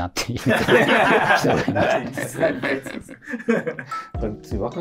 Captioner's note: laughing